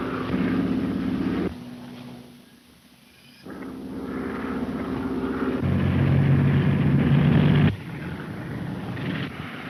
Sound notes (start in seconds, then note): 0.0 engine revving; 0.2 engine droning; 5.8 engine revving